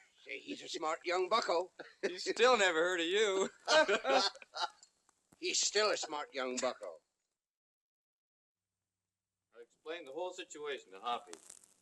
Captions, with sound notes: He's a smart young buckle. He's still never heard of you. [ LAUGHTER ] He's still a smart young buckle. Explain the whole situation, Hoppy.